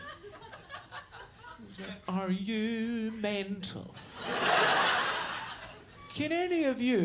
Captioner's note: audience laughs